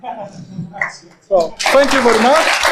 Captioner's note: audience clapping